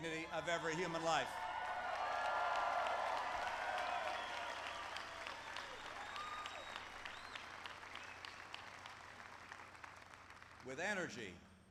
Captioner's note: applause